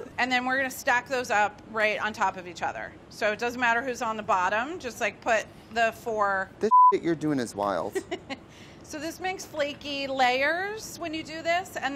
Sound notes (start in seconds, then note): 7.9 laughs